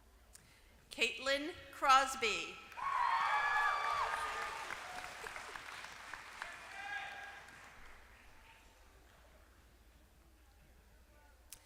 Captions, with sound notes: >> Caitlin Crosby >> [APPLAUSE]